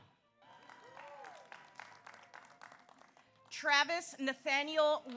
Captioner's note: audience applauds; audience cheers